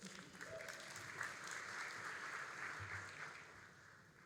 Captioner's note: all applauding